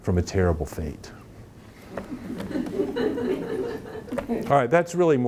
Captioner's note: audience laughing